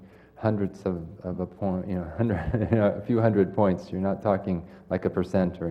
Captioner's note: laugh